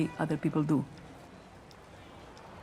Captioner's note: traffic noise